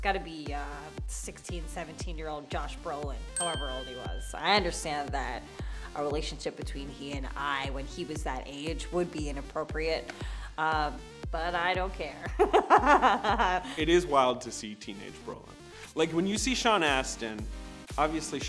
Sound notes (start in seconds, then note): 3.3 image dings; 13.3 laughs